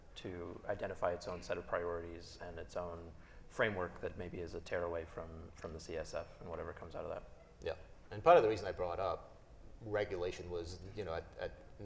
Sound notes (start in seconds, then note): none